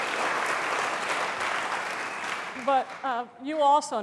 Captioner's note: applause